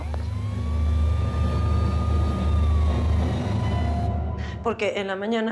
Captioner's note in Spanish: sonido de sirenas